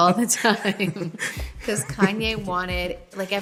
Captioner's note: laughing